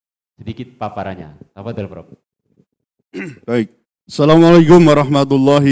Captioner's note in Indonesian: berdehem